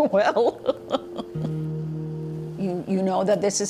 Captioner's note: laughing